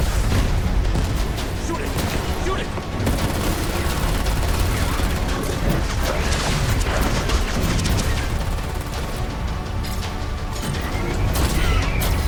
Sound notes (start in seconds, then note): 5.2 guns firing; 10.6 machine beeping